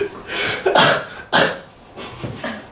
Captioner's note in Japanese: ゴホッ、ゴホッ